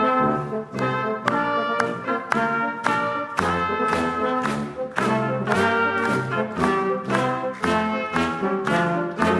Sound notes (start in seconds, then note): 2.8 hands clapping; 6.5 patriotic music